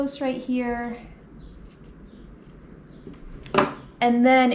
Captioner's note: scissors snipping